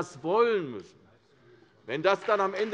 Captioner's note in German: Beifall CDU